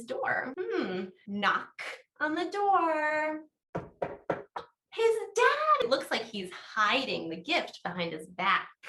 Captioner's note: knocking sound